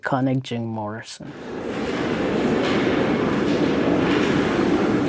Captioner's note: loud and echoed mechanical sounds & train wheels screeching